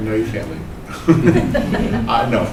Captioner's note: laugh